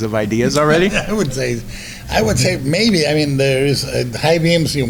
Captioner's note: laughs